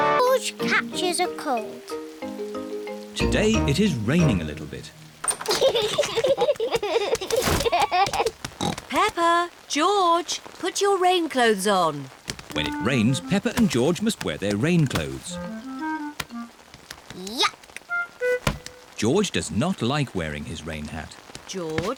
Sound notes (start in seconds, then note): 5.4 both giggling; 8.6 oinks